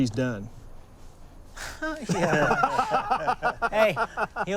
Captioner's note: laughs hesitantly; boisterous laughter